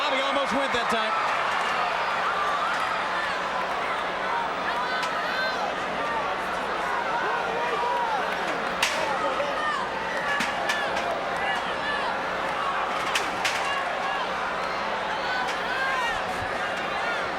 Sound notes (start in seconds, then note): 10.8 scaffold rattling